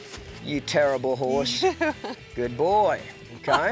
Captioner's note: laughs